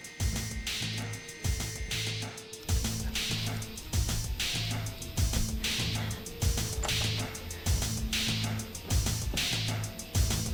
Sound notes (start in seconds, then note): 6.6 door knob turning